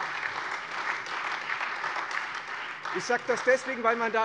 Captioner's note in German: Beifall Freie Demokraten und SPD